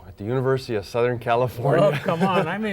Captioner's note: laughing